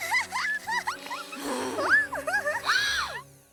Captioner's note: whimpering; sighs, Gasps